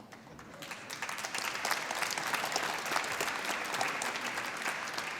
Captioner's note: applause